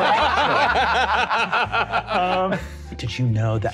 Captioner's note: players laughing